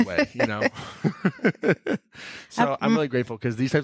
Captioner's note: laughing